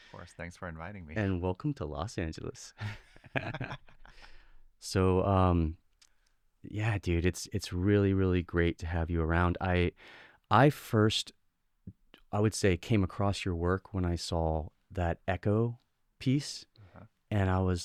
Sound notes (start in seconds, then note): 2.9 laughs